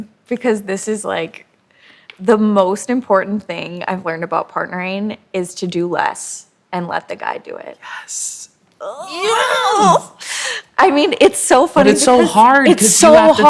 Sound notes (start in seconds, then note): 7.8 whispering